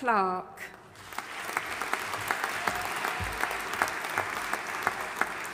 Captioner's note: audience applauding